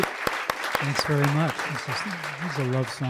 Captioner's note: applause